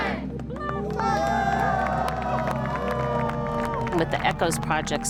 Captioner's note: audience applauds